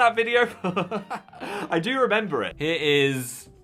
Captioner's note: laughs